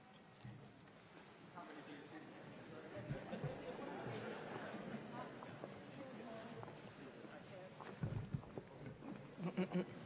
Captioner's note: laughter